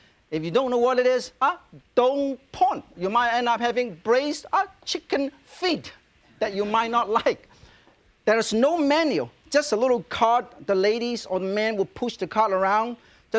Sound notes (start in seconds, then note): none